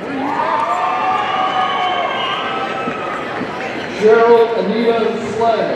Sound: audience cheering

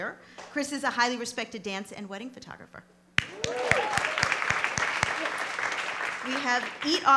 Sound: applause

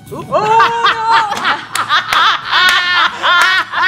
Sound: laughter

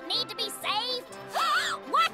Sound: gasping

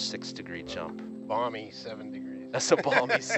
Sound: chuckles

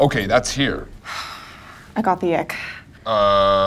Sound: sighing

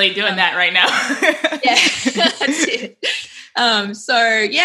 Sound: laughing

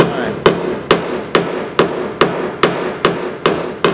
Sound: thuds

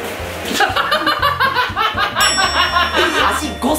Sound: cracks up

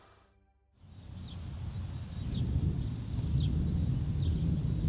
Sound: birds chirping

